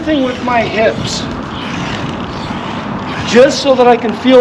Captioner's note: wheels creaking